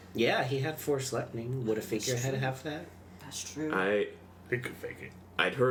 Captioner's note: none